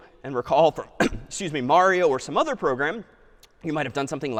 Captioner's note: clears throat